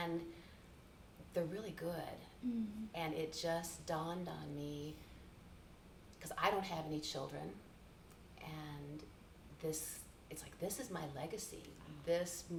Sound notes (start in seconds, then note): none